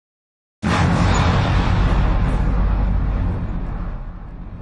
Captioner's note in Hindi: विस्फोट।